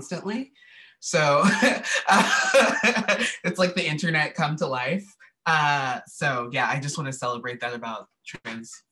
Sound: laughter

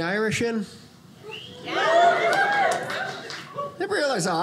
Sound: audience cheers

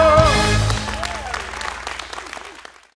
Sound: cheers and applause

